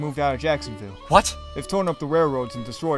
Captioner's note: irish Accent